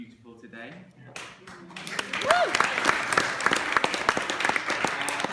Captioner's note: applause